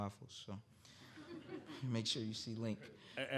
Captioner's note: audience laughing